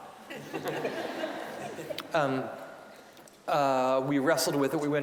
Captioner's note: audience laughing